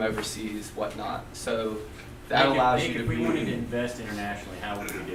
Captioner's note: voiceover